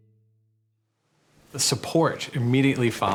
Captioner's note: breeze blowing; flag fluttering